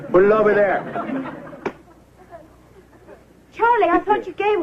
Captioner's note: laughter